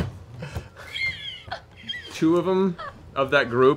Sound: laughing

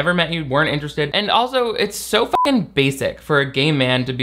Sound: beep

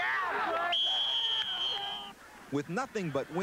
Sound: whistle blows

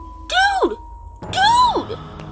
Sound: yelling

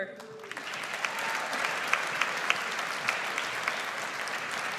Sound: audience applauds

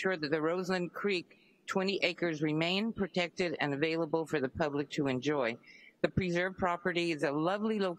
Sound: speaking spanish

